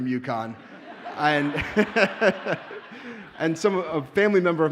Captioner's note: audience laughs